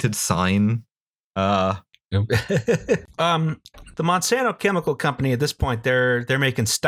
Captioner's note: laughter